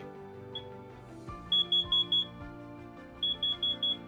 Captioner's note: beep, beep, beep, beep; beep; beep, beep, beep, beep